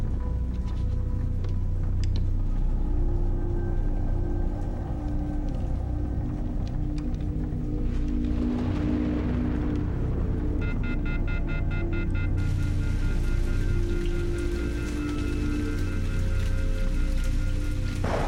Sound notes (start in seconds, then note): 10.6 disconnection tone blaring; 14.9 suspenseful music